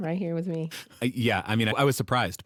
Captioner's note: laughing